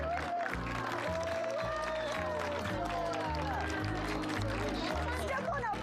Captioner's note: applause